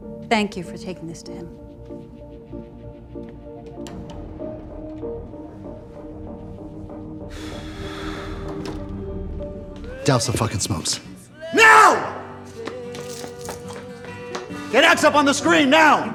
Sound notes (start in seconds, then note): 7.4 Wags sighs